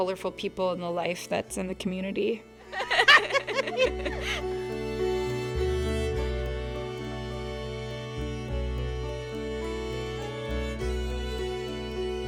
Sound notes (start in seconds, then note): 2.7 people laugh; 5.1 soft music